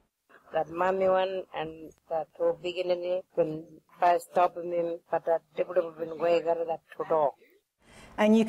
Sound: foreign language

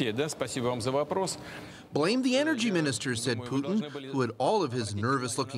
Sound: speaking foreign language

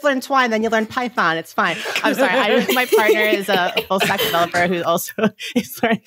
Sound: laughs

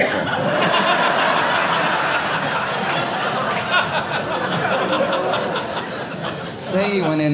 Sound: audience laughing

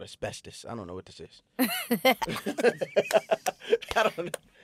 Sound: laughing

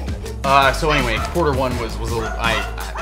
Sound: dog barking

